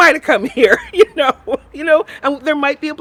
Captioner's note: laughs